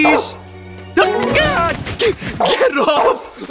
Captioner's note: Radar Barks; laughing